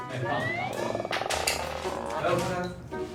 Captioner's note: panicking